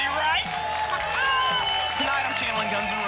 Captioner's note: applause and cheering